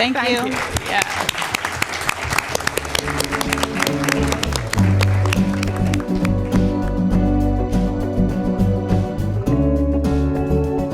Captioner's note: applause